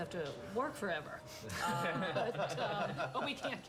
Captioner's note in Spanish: risas